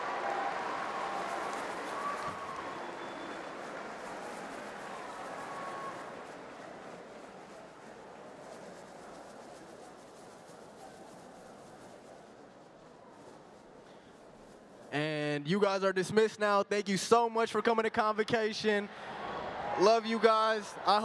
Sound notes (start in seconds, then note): 0.0 cheering